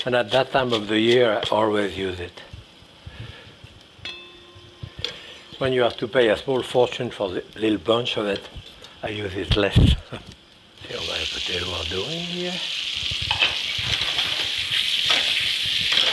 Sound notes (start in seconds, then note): 10.3 chuckles; 14.1 potatoes sizzling